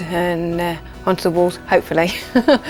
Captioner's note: chuckles